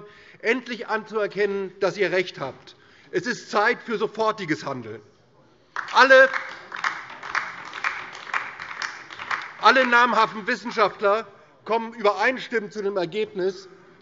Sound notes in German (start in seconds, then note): 5.7 Beifall DIE LINKE